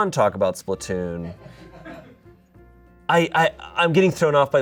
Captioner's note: audience laughing